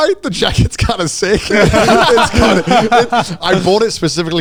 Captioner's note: all laughing